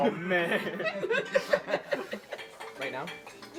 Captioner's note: laughter